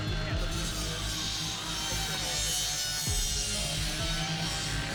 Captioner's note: saw grinding